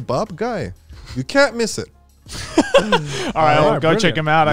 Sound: laughing

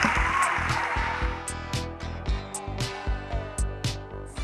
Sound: audience applause and cheers; theme music plays

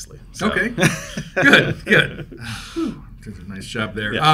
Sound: both laughing

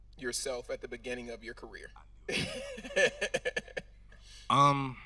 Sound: laughing

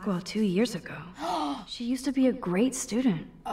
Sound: gasps

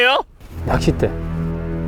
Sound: solemnly

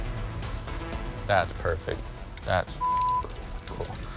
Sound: beep

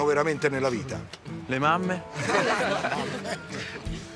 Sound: laughs

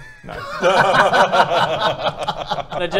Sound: jealous laughter

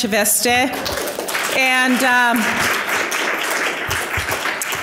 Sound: audience applause

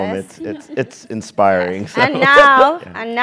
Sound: laugh

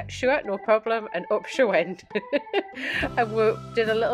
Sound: laughs

